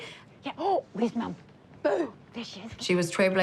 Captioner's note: gasps